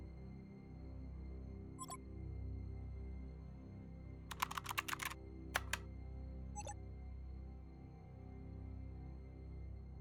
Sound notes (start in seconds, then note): 1.7 monitor blips; 5.5 monitor blips